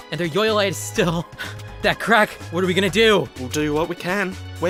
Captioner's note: heavy breathing